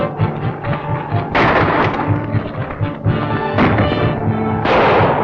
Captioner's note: gunshots